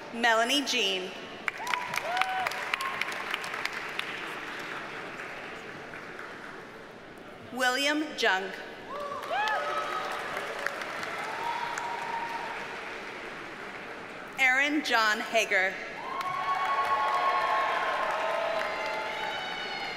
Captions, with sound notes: Melany Jean. (audience cheers and applauds) William Jung. (audience cheers and applauds) Aaron John Hager. (audience cheers and applauds)